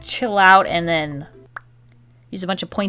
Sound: mouth pop

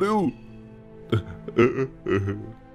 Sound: whimpering

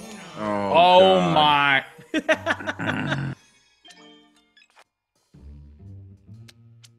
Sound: laugh

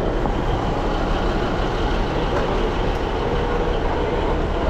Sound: engine idles

